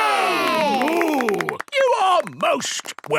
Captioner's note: applause